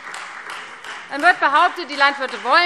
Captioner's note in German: Beifall Freie Demokraten